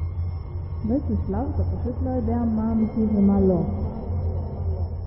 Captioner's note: in low echo voice